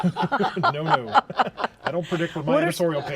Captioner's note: laughter